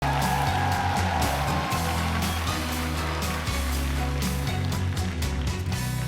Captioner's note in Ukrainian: оплески